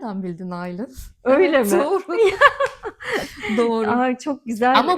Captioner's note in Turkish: kahkaha